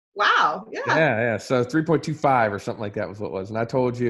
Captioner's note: murmurs